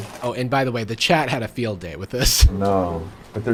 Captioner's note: laughs